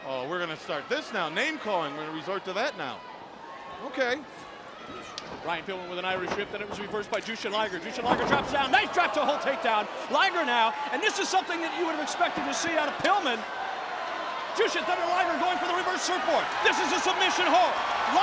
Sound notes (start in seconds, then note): 5.9 footsteps plodding; 8.9 body thudding; 13.9 crowd clamoring